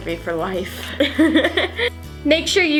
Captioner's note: laughs